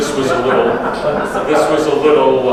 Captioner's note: audience laughs